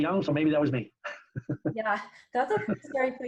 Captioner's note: laughs